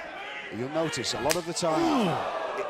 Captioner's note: crowd chatter